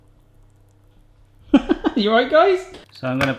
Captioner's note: laughing